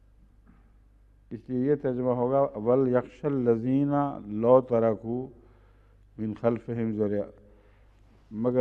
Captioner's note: Arabic